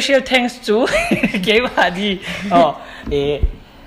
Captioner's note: laughs